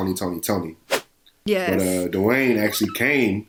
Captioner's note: whoosh; laughs